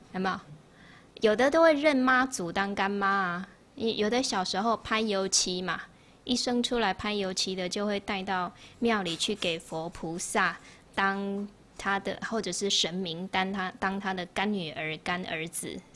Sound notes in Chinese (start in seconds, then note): 5.6 台語